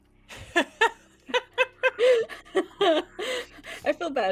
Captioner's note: laughs